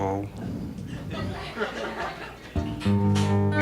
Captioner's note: audience laughing; gentle music